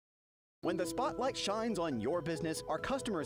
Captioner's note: voiceover